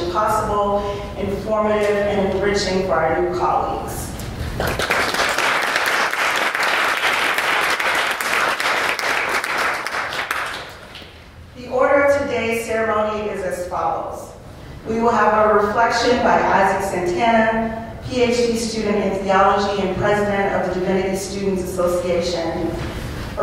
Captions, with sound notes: possible, informative, and enriching for our new colleagues. [APPLAUSE] The order of today's ceremony is as follows. We will have a reflection by Izak Santana, PhD student in theology and President of the Divinity Students Association,